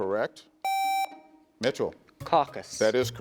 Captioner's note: contestant beeping